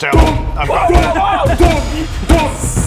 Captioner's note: doop doop doop; doop